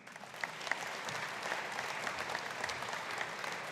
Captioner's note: audience applauding